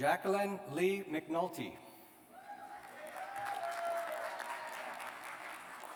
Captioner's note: cheers and applause